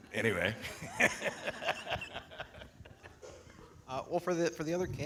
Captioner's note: laughs